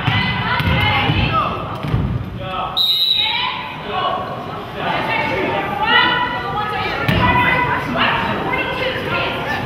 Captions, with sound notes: (whistle blows) - White 42, hit.